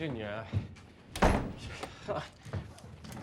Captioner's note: door slams close